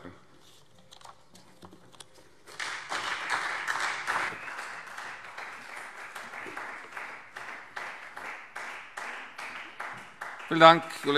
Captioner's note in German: Beifall Freie Demokraten, CDU, BÜNDNIS 90/DIE GRÜNEN und SPD